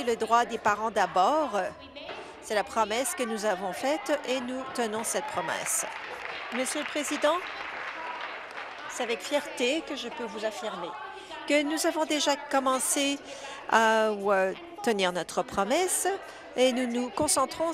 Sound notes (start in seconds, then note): 9.3 applause